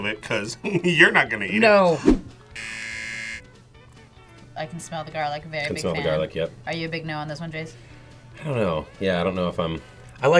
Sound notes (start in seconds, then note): 2.5 buzzer